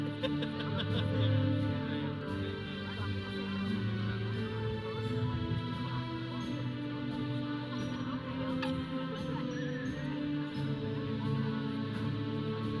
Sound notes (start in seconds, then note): 0.0 audience member laughs; 1.7 audience chattering; 1.7 processional music